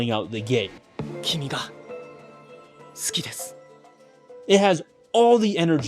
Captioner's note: speaking in foreign language